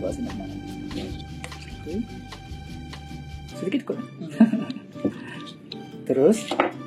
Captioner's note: laughs